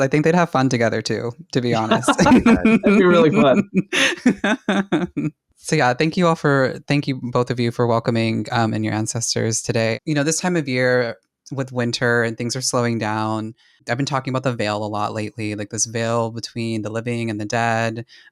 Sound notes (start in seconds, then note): 1.7 laughing